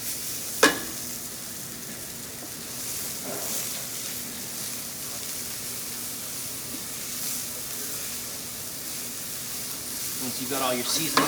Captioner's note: ingredients sizzle and shuffle in the pan; ingredients sizzle in the pan; pan clanks against the burner